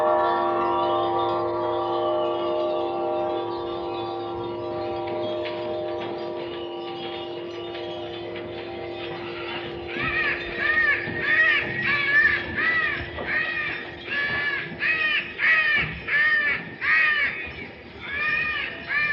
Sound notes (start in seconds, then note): 9.0 bird squawking